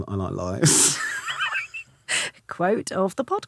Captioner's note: Romesh laughing